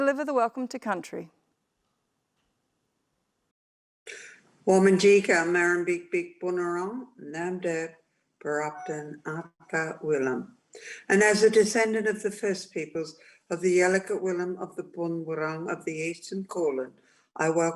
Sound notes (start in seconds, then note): 6.0 speaking native language